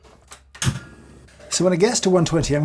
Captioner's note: stove clicks